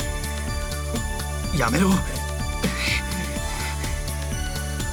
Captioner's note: panting